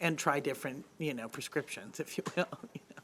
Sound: laughs

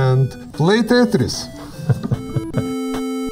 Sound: chuckling

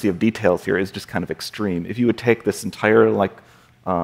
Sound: none

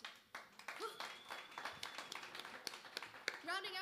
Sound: applause

